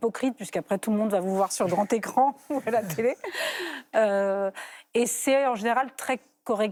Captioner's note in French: rires